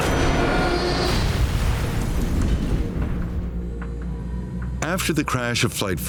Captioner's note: aircraft exploding